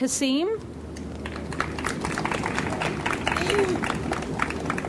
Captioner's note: audience applauds